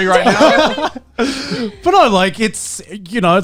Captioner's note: laughing